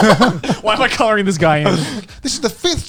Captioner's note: chuckling